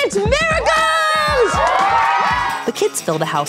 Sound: party-goers cheering

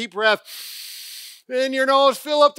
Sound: breathing in through nose

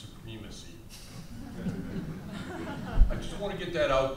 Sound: audience chuckles

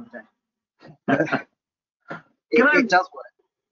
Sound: laughs

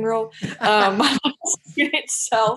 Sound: laughing

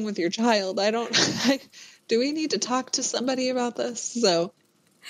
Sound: laughs

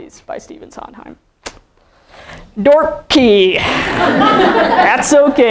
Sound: laughing

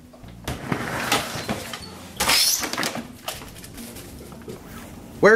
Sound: door creaks open

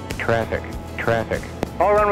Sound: electronic Voice

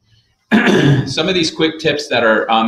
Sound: clears throat

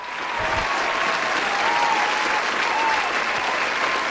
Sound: applause

